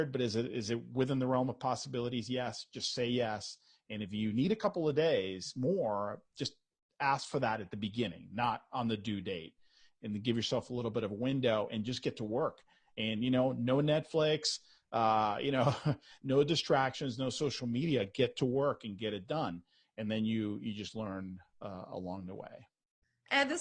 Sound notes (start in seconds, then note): 15.6 chuckles